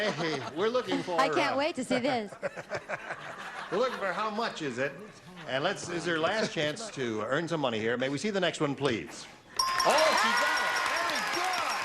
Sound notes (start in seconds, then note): 0.0 laughter; 3.5 laughter